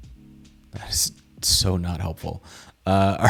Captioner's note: chuckling